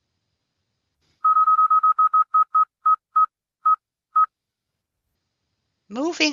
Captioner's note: beeping